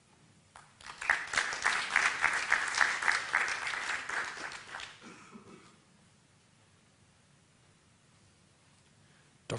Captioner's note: applause